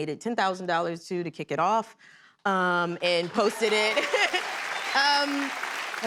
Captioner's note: cheers and applause